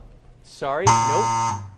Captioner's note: buzzer